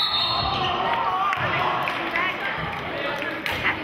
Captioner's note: whistling